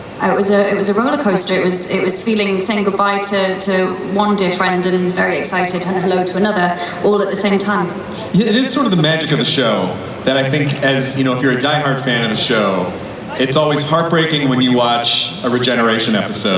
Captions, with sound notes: It was a rollercoaster, it was feeling, saying goodbye to one dear friend and very excited and hello to another all at the same time. - [Voiceover] It is the magic of the show that I think, if you're a diehard fan of the show, it's always heartbreaking when you watch a regeneration episode